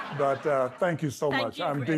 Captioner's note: audience laughs